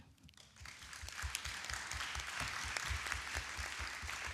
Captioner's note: attendees clapping